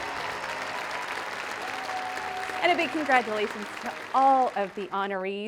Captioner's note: applause